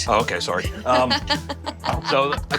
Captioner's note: laughing